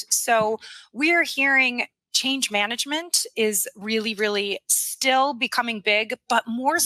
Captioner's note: none